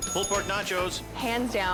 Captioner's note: bell dings